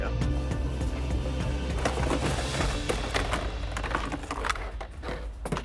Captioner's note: tense music; objects clattering